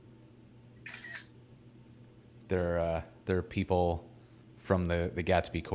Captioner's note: camera clicking